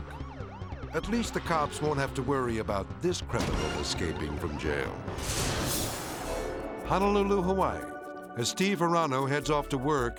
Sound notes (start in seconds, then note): 0.0 sirens blaring; 5.0 dramatic whoosh; 6.5 hawaiian music